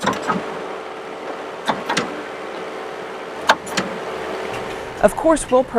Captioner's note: construction machine noise